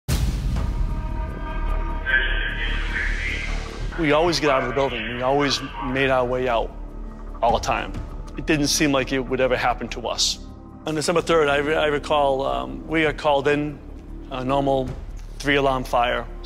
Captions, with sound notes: (dramatic music) (radio chatter) We always get out of the building. We always made our way out. All the time. It didn't seem like it would ever happen to us. On December 3rd I recall we got called in a normal three alarm fire